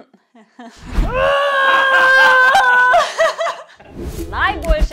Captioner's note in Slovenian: smeh in vpitje